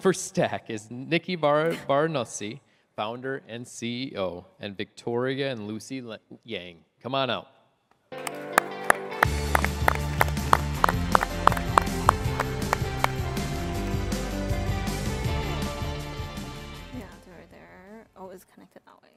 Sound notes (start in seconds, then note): 11.8 applause